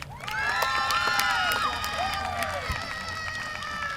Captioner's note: applause